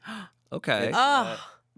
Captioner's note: gasps